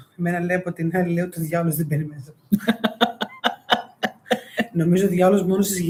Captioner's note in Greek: γέλια